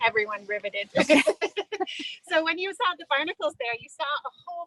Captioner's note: laughter